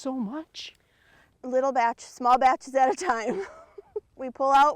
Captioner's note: laughs